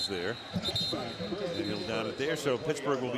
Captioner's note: whistles